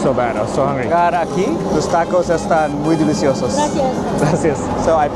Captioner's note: foreign language